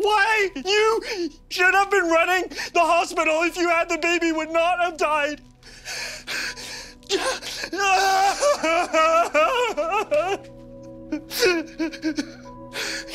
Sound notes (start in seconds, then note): 5.6 sobbing